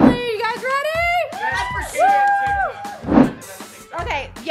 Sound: cheers

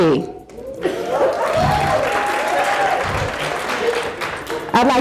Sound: audience applauding

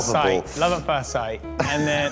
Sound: matt laughs

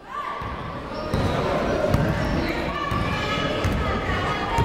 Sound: people shouting in the crowd

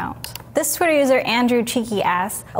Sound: mouse clicking

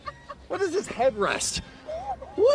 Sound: laughter

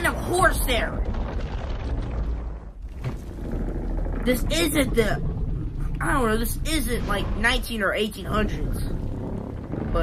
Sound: rumbling; Legendary Godzilla growling

